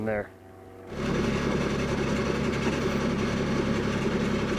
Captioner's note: skid-steer idling